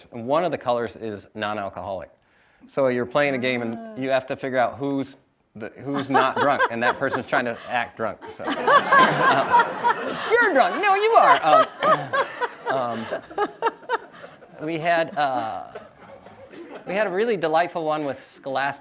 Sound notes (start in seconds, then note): 8.4 audience laughs; 12.3 laughing